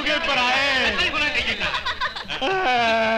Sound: laughing

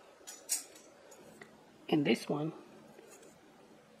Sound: none

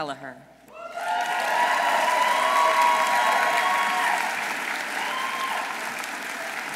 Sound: audience cheering; audience applauding

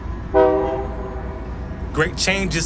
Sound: train honking

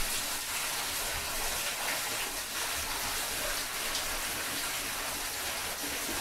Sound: water running

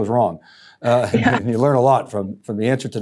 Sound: laughs

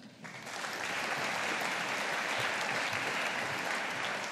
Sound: audience applauding

